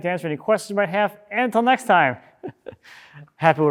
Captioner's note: chuckles